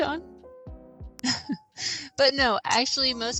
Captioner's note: laughing